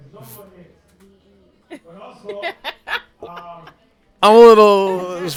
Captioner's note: laughter